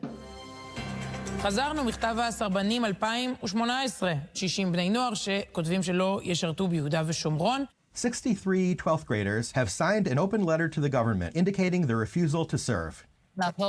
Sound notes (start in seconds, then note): 0.0 dramatic orchestral music; 1.7 reporter speaking foreign language; 13.4 speaking foreign language